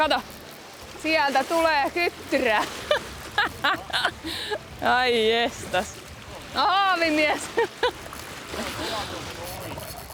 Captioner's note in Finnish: naurua